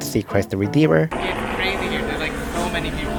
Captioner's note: helicopter noise in background